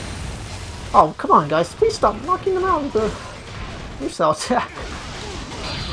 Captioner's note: scoffs